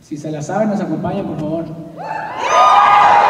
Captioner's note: speaking in Spanish; cheering